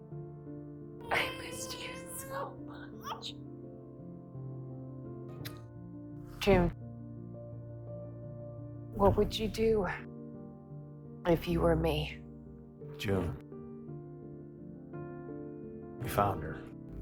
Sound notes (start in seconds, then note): 1.1 Noah cries; 1.4 whispering